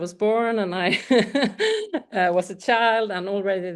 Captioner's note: laughs